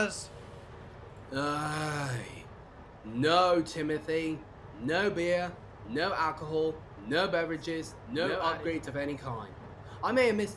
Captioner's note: groans